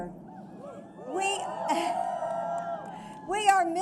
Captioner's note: applause